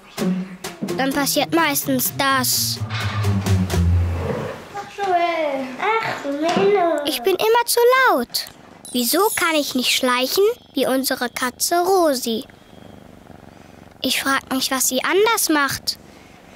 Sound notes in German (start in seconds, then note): 2.9 Rauschen; 12.6 Schnurren